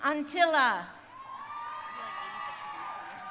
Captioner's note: crowd cheering